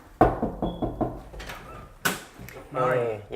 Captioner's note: Llama a la puerta; knocking on door